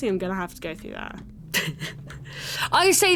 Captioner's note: laughs at own joke